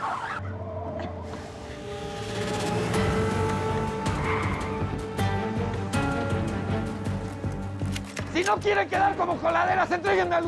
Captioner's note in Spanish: chirrido de neumáticos